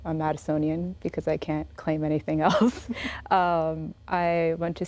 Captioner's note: laughs